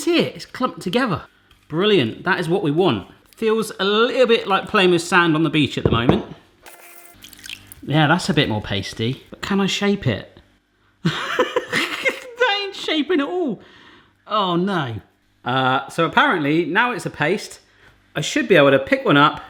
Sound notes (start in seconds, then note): 11.1 laughing